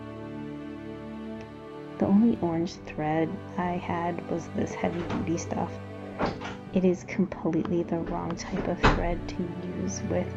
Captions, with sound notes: The only orange thread I had was this heavy duty stuff. (Door shuts) It is completely (door sounds) the wrong type of threat to use with